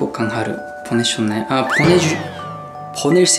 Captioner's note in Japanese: 言葉がもつれた